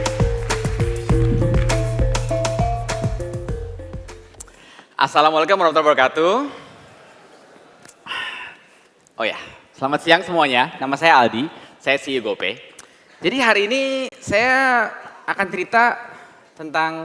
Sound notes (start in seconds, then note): 9.5 non-english speech